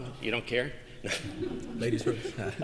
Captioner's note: laughter